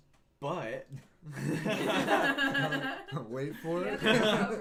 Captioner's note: laughing